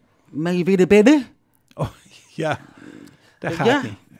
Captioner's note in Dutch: gelach